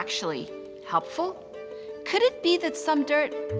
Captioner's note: none